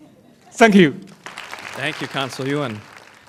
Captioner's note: applause